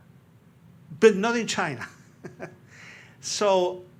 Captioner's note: laughs